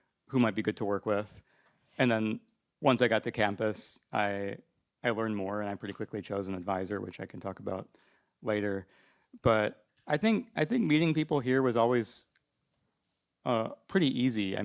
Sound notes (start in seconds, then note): none